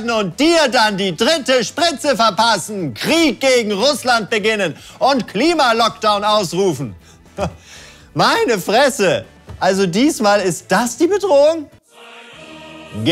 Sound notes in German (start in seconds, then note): 7.3 Er lacht leise